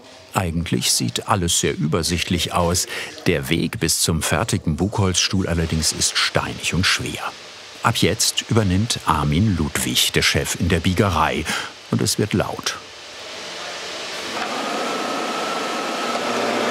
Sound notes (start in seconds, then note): 14.9 machine whirring